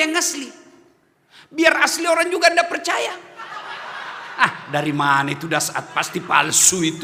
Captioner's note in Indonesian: tertawa